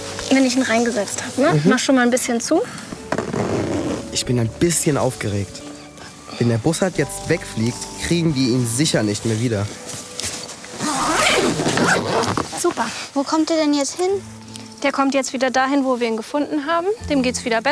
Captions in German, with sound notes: Wenn ich ihn reingesetzt hab. Mach schon mal ein bisschen zu Ich bin ein bisschen aufgeregt. Wenn der Bussard jetzt wegfliegt, kriegen wir ihn sicher nicht mehr wieder. (Zippgeräusch) Super. Wo kommt der denn jetzt hin? Der kommt jetzt wieder dahin, wo wir ihn gefunden haben.